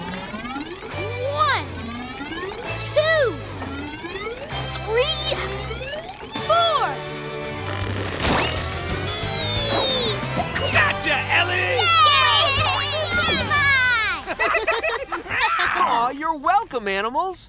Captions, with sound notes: One, two, three, four! Wee! Gotcha Ellie! [cheering] [laughing] Aww, you're welcome animals.